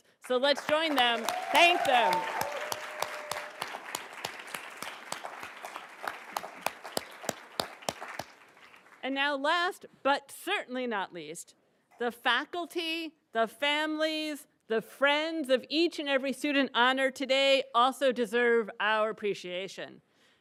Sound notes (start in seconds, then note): 2.0 applauds; 2.5 attendees cheering and applauding